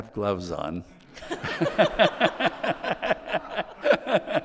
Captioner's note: all laughing